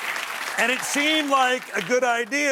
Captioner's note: applause